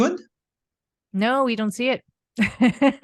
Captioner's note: laughs